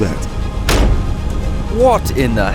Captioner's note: propellers get louder